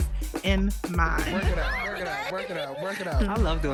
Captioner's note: panelists chattering